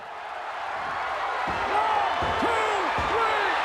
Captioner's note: crowd roars